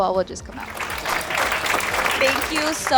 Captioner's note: audience applauding